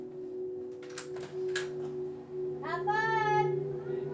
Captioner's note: door latches click